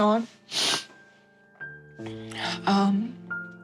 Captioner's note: sniffs